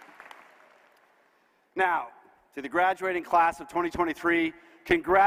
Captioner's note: applause